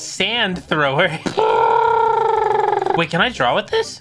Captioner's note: mimicking machine gun